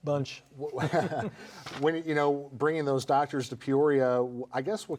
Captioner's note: laughs